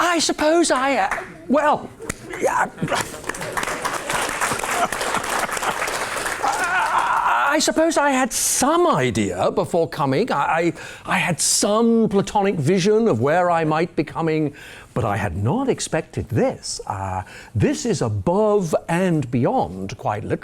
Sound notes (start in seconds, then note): 2.9 applause